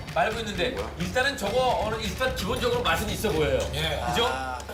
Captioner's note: mouth watering